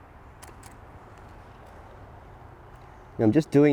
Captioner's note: clicking